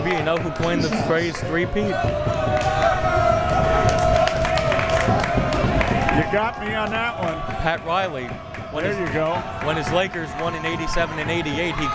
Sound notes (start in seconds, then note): 2.6 crowd members shouting